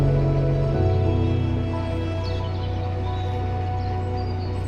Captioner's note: birds chirping